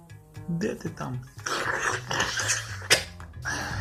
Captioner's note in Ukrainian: звук хлюпiв , сербан